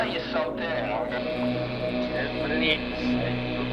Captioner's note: Static